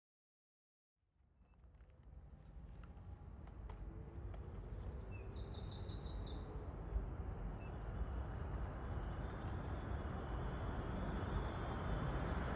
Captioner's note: sounds of birds and cars passing